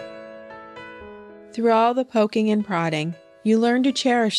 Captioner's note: voiceover